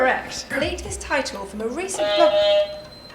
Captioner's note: buzzer